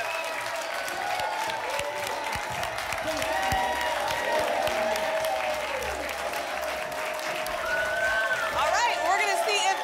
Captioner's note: applause and cheering